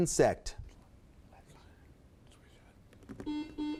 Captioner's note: contestants whispering; beep